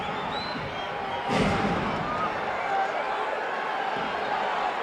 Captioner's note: mat banging